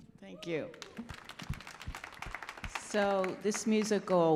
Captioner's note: audience applauding